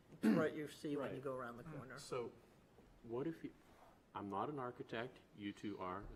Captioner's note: clears throat